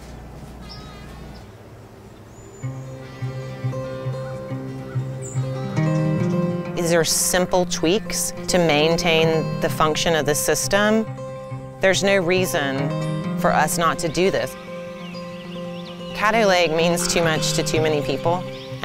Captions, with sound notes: (gentle instrumental music) - These are simple tweaks to maintain the function of the system. There's no reason for us not to do this. (birds chirping) Caddo Lake means too much to too many people